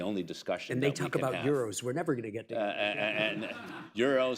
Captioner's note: laughter